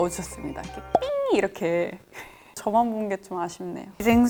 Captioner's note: beep